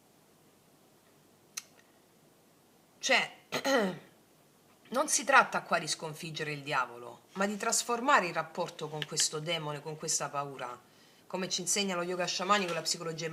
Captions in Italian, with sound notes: Cioè [schiarire la voce] non si tratta qua di sconfiggere il diavolo, ma di trasformare il rapporto con questo demone, con questa paura. come ci insegna lo yoga sciamani con la psicologia